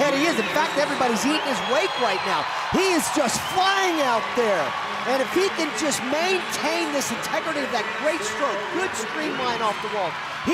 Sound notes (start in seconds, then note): 3.9 audience loudly cheering